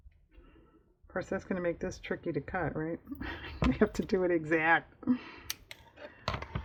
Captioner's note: laughs